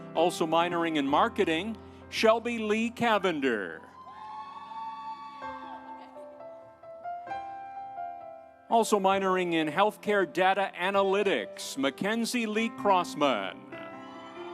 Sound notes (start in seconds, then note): 3.9 audience cheering; 5.8 instrumental music; 13.9 audience cheering; 14.3 instrumental music